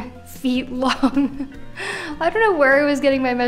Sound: laughing

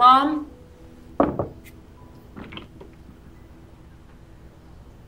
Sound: knocking on door

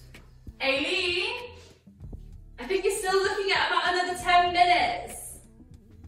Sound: shouting

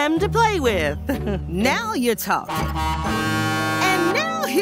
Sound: honking

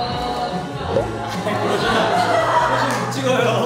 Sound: cracking up

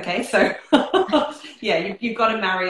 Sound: laughter

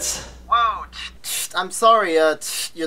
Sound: static buzz

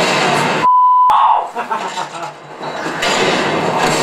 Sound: laughs

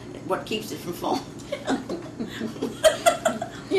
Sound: laughter

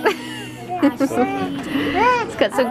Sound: laughs; coos

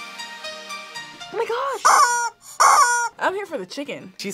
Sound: upbeat music; rubber chicken squeaks

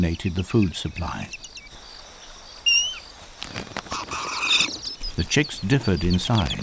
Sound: birds chirping

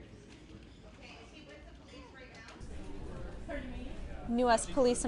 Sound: people talking

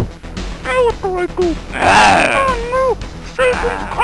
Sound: demonic voice growls

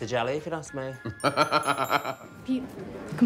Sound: laughing

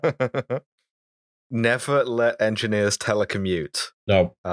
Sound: laughter

